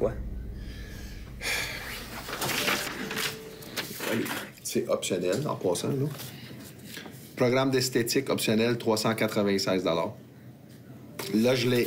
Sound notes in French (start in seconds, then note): 0.5 soupir du vendeur